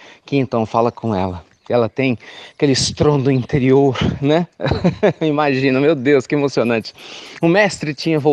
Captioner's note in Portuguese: Risos